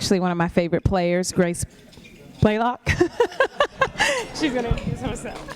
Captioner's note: laughs